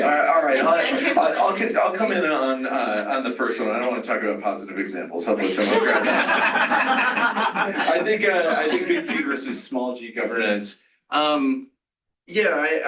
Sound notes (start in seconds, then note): 5.5 laughter